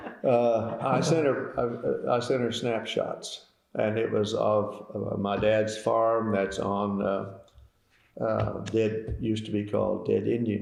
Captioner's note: laughter